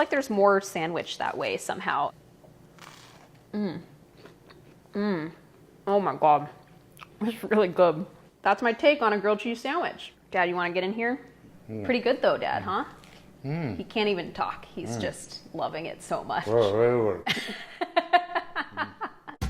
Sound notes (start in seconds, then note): 2.7 bread crunching; 18.1 laughs